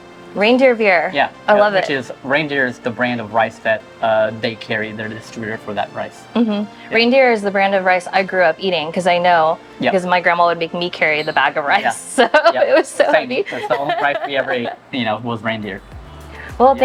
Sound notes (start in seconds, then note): 11.8 laughs